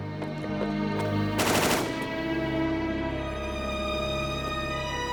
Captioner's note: gunshots blasting